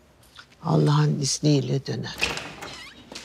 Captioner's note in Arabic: يفتح الباب